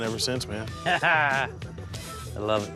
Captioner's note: laughing